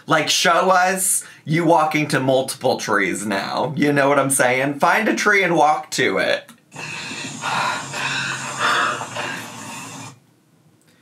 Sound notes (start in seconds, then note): 6.7 panting